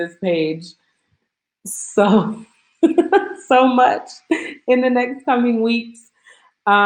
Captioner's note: laughs